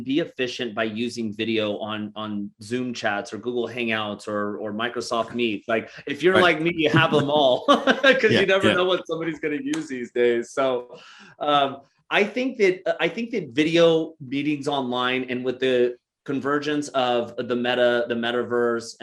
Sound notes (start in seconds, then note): 5.6 chuckles